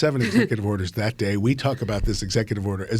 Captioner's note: laughing